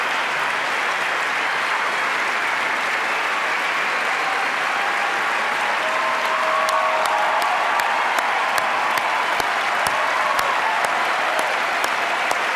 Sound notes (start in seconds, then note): 0.0 applause